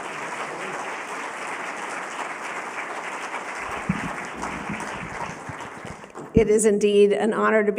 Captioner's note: applause